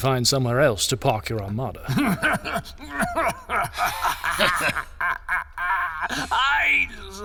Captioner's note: Rau anxious laughter; laughing